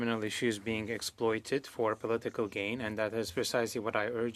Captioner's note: speaking French